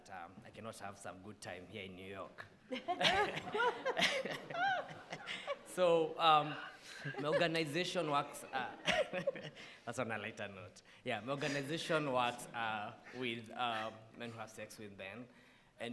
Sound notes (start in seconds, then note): 2.7 all laughing; 8.0 laughing